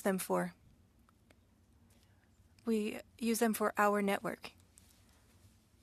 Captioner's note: speaking French